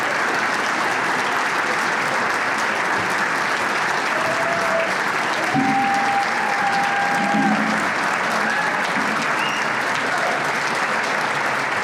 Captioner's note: applause